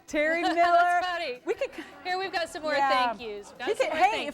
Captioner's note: laughter